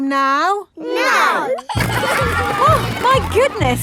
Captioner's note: giggling